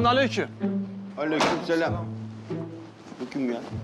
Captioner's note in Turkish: Hep bir ağızdan